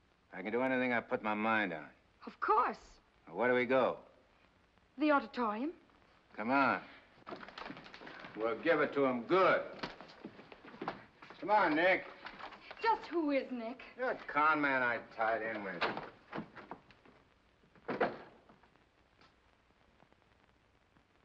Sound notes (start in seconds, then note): 17.7 door closes